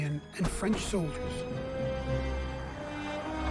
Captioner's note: guns firing